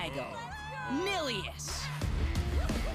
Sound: crowd

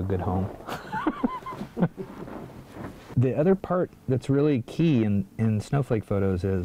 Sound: laughing

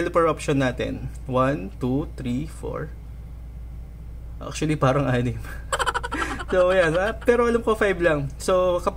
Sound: laugh

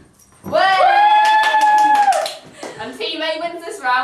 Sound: cheers and Claps

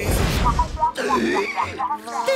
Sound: gasping

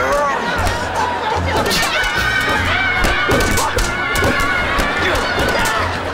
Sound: grunting; screaming

